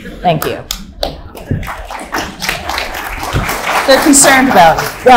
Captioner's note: audience clapping loudly